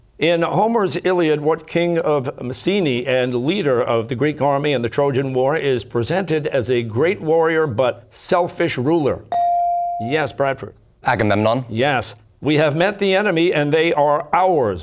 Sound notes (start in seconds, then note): none